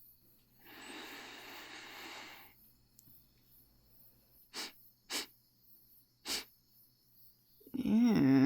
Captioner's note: inhale, pause, sniff, sniff